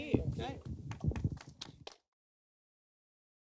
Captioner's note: audience applauding